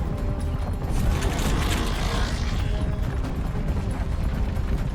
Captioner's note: creaking sound